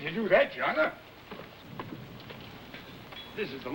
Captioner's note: hooves clopping